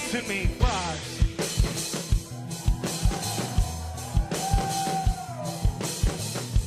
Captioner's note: cheers, whistles, & applause